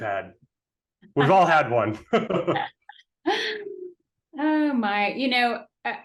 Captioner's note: laughing